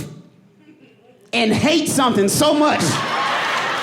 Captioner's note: audience cheering and applauding